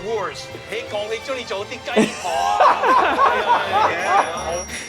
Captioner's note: people speaking foreign language